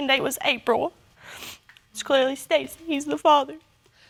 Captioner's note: sniffles